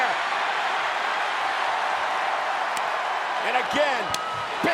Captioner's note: audience cheering